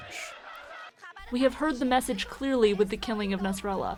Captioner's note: through translator